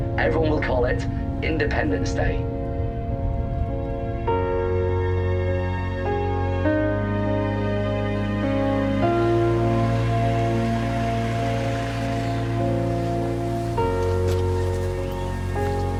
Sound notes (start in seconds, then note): 3.7 gentle music continues; 9.1 car approcing